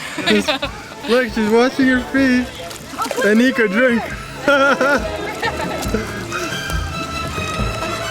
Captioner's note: laughter; laughter